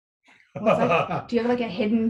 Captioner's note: laughs